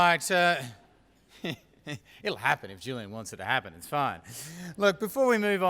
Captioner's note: laugh